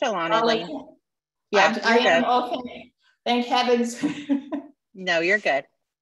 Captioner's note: laughter